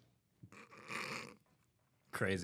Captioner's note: snort